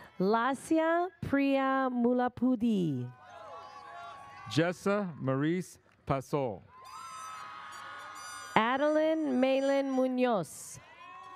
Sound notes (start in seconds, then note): 6.8 audience cheers